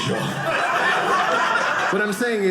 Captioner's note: audience laughing